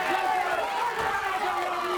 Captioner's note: crowd cheering